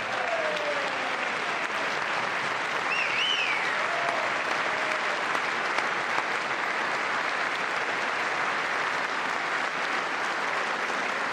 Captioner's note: applause